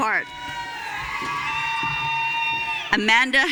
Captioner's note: audience cheering